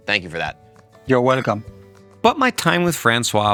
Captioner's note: glasses clinking